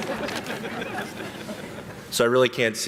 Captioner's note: platform guests snickering